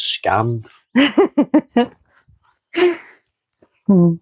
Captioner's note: laughs